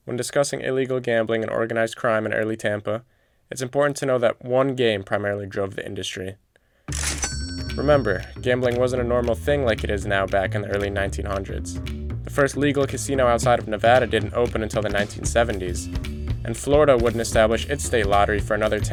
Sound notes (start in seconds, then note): 6.9 cash register ding